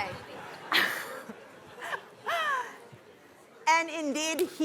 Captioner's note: laughs